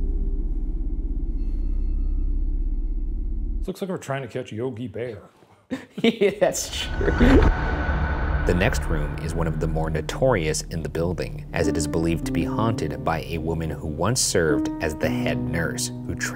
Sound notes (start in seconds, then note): 5.7 laughing; 7.4 tense foreboding music